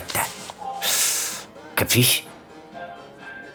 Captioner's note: inhales